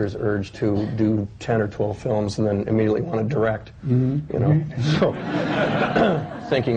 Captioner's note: laughter